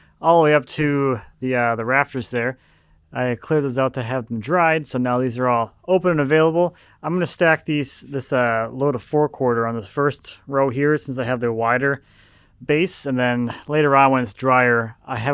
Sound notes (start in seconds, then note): none